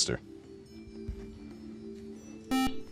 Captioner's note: beep